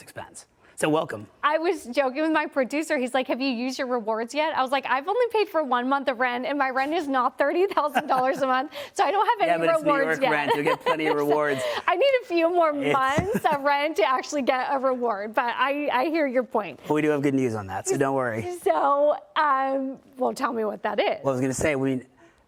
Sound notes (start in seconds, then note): 13.0 laughter